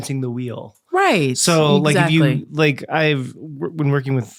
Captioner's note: stammering